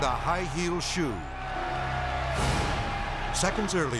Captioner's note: crowd cheering